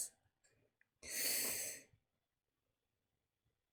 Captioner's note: sharp intake of breath